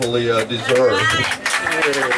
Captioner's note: clapping!